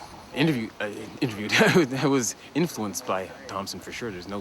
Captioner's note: laughs